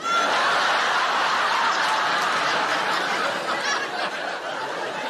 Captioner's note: audience laughing